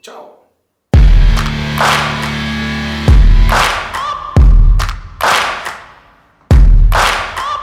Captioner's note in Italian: Applauso